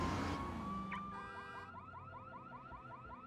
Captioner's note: car alarm beeping